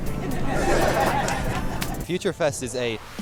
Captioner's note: crowd laughter